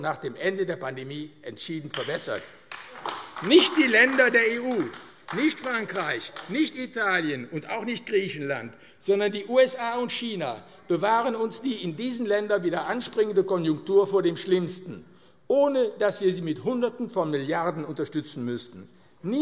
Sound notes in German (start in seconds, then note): 1.9 Beifall AfD